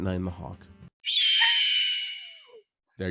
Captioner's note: hawk screech